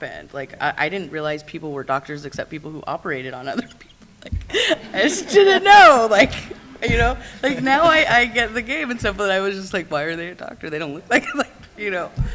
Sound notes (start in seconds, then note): 3.3 laughs